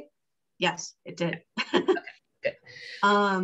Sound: laughing

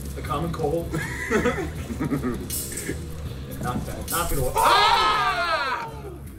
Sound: laugh; laugh

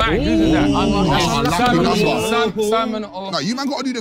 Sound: group chattering

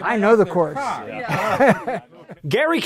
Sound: laughs

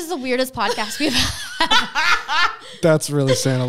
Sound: both laughing

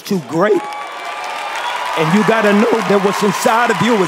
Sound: cheering and applause

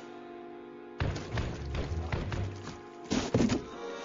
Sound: stomping

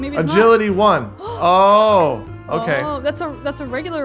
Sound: gasps

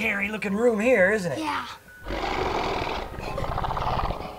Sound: growling

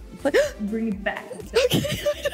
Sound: gasps; chuckles

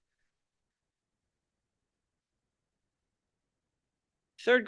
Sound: audio cuts out

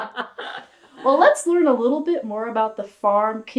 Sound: laughter

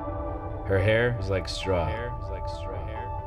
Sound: echoing

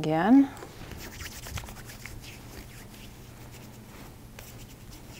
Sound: hand rubbing together

